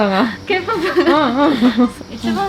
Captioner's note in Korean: 웃음